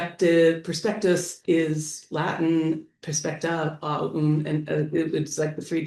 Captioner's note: speaking latin